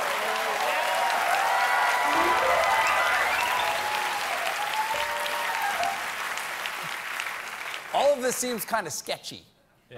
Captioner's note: cheers and applause